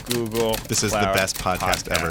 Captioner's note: typewriter clicking